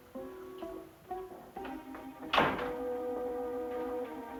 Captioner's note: door closing